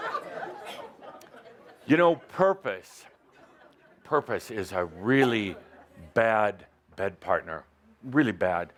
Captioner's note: laughter